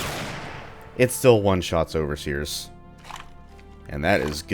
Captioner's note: bam